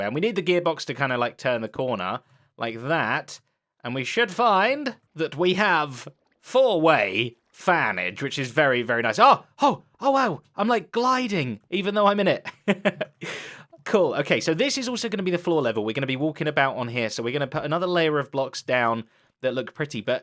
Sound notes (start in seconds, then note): 12.4 chuckles